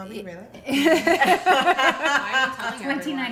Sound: laughing

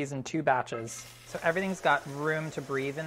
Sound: sizzling

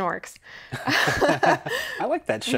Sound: both laugh

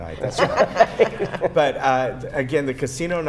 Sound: laughter

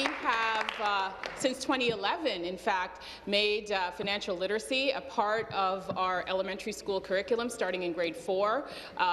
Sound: applause

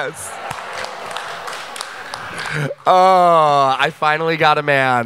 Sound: audience applause

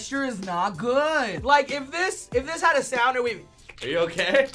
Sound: squelching

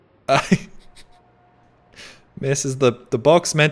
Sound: laughs

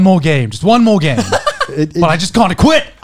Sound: chuckling

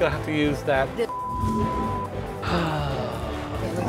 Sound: beep; sighs loudly

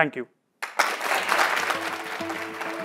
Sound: applause

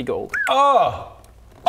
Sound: cry of pain

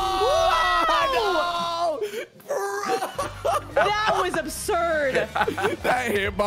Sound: screams

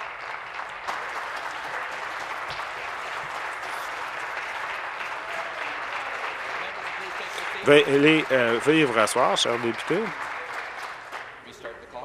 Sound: applause

